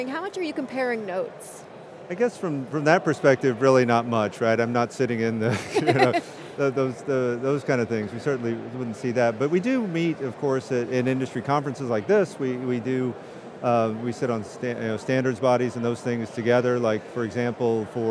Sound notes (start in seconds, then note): 5.4 chuckles; 5.5 laughing